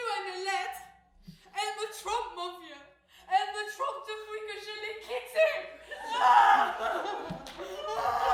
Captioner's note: sobbing